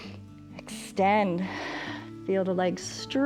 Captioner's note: inhales; exhales